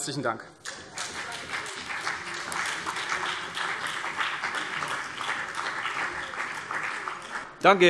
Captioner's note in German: Beifall CDU und vereinzelt BÜNDNIS 90/DIE GRÜNEN